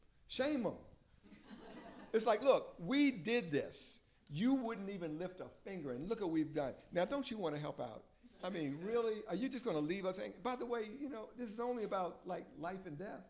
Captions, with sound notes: Shame them. [LAUGHTER] It's like, look, we did this. You wouldn't even lift a finger, and look what we've done. Now, don't you want to help out? I mean, really? Are you just going to leave us hanging? By the way, this is only about life and death.